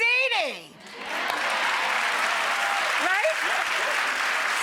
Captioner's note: crowd clapping